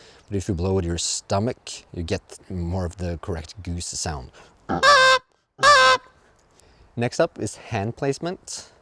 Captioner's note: geese honking